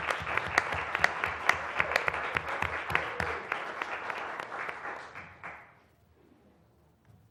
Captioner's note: applause